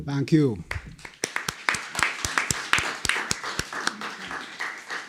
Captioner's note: applause